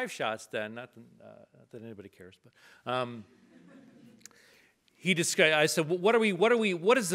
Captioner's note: audience laughs